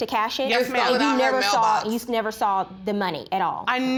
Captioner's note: arguing